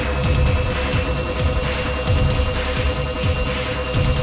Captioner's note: melodramatic music; blower whooshes